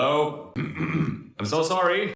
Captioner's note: ahem